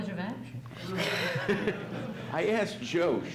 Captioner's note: laughs